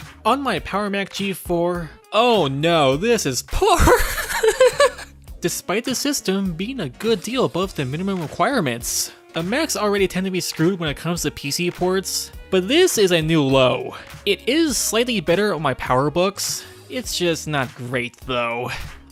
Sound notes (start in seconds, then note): 3.7 starts laughing